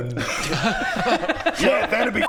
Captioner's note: laughs in 'well duh'